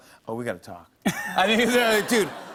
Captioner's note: laughter